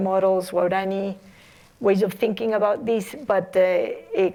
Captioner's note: non-english